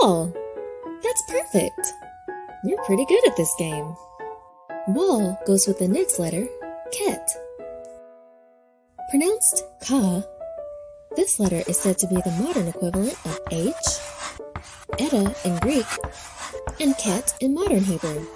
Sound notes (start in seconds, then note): 9.8 pensive piano music; 13.6 chalk scratching